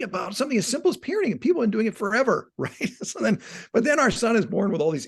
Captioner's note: laughing